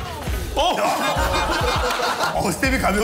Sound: laugh

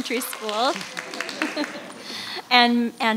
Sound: audience applauding

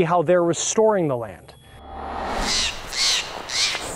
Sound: loud whooshing; bird cawing

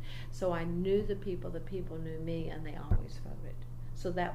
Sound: resumes tapping table

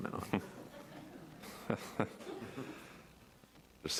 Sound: laughing

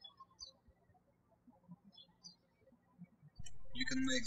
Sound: birds chirping

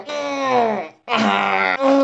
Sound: angry noises

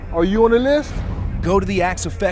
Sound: transition whooshes

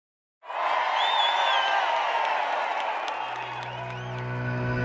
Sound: audience cheering

